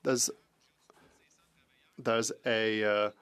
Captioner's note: speaking French